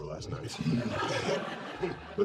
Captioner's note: laughing